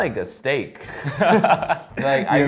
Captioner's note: laughs